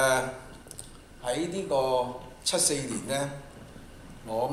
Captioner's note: Cantonese